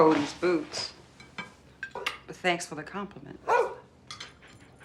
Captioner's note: barking